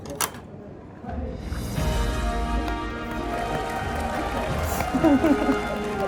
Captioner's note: A round of teary applause